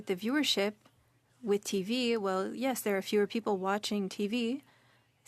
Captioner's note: speaking French